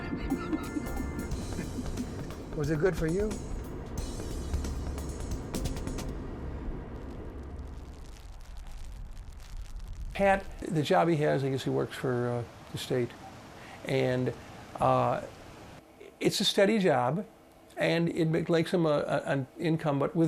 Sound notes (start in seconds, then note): 0.4 chuckling; 8.2 precipitation pitter patter